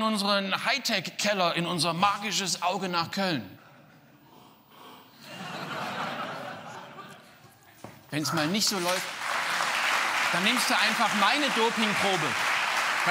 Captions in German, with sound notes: Nein, das macht man auf einer sanitären Einrichtung. Ich würde da ... In der Nasszelle. Ich nehme das mit. Glück auf dem Weg. *Applaus* Die Doping-Kontrollen sind wichtig.